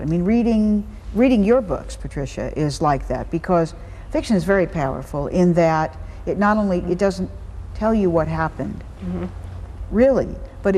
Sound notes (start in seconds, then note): none